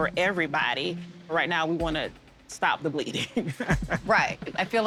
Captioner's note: chuckles